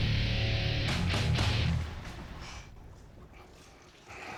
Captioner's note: quietly